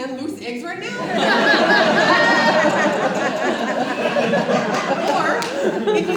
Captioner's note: audience laughs